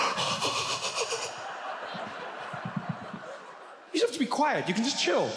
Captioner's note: audience laughs; Trevor breathes frantically